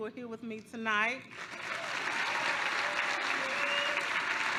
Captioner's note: applause